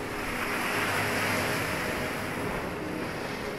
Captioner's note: waves crashing